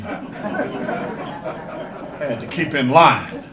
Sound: audience laughter

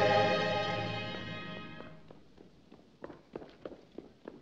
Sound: running Footsteps

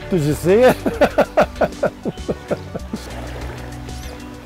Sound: laughing

